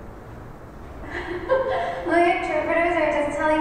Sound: laughter

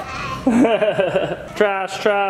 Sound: laughs

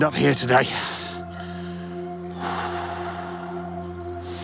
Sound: slow breathing

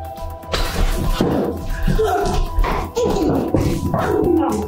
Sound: struggling

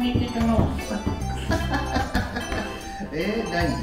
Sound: laughs

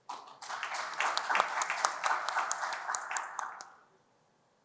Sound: applause

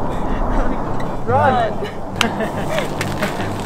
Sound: laughing

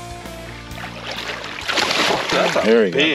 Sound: fish splashing

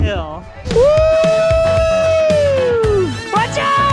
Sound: cheers

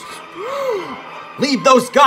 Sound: henchmen gasp

